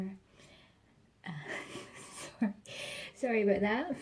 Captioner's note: quiet, breathless laughter